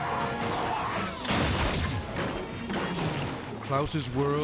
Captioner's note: tire screeching; car crashes